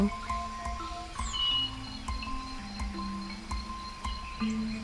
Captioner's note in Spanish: pájaros trinando